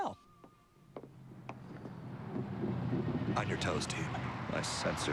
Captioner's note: rumbling